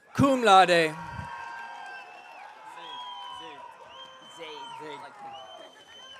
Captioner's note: audience cheering